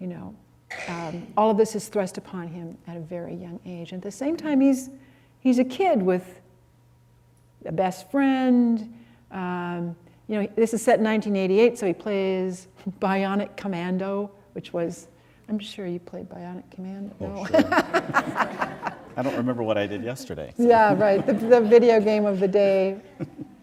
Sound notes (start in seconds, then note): 17.2 laughter